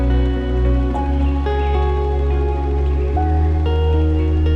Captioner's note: gentle music; birds chittering